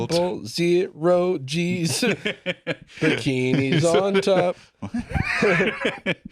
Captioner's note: laughs